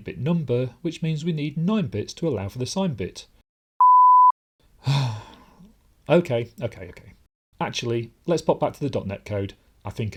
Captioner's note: sigh